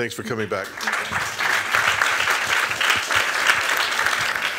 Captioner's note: applause